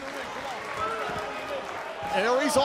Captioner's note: crowd cheering